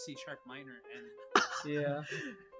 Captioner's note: laughs